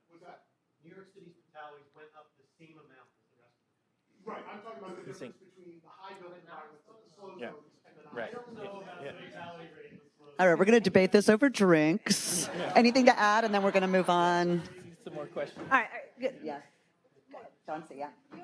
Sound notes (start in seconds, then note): 3.9 faintly speaking; 8.7 group chattering